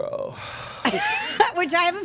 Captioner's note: group laughing